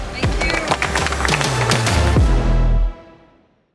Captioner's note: all applauding